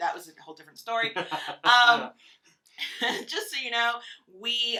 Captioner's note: laughs